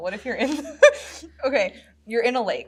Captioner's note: laughs